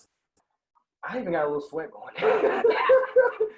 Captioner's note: laughing